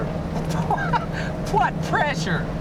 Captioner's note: laughing